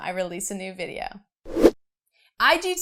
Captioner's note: air whooshing